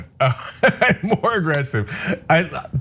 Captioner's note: laugh